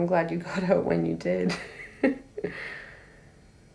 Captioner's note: laughing